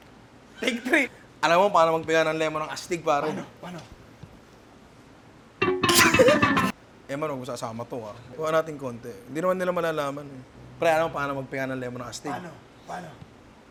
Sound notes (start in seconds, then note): 5.9 laughs out of despair